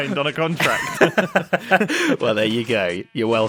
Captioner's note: BOTH laugh